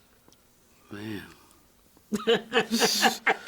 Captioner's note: laughs